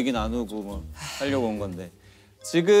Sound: sigh

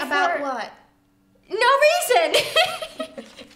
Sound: laughs

